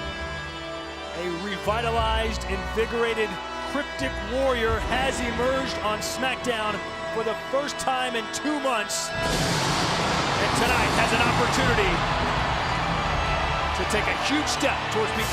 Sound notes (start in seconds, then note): 9.0 upbeat music continues; 9.1 crowd cheering